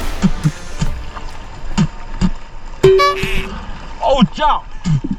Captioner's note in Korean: 뱉는 소리